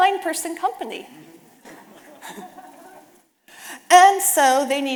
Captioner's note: audience laughing